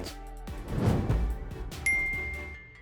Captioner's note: upbeat music; swiping sound; ding